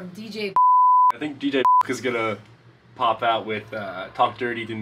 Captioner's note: beep